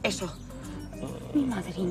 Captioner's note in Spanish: Ronquido